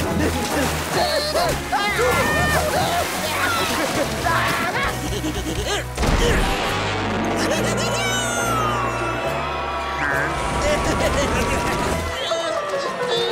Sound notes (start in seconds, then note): 5.4 grunting; 7.3 laughing; 10.5 laughing